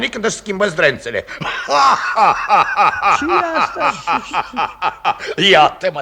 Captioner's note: laughing malevolently